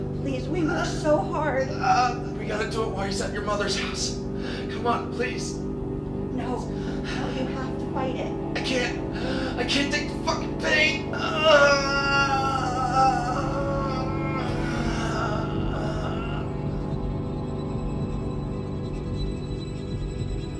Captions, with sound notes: - Please. We worked so hard. - We gotta do it while he's at your mother's house. Come on, please. - No. No. You have to fight it. - I can't. I can't take the fucking pain. (man moaning) (suspenseful tones)